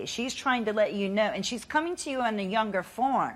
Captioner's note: none